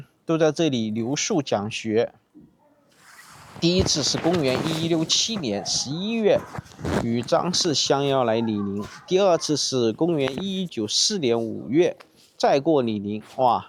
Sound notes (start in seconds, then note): 8.7 bark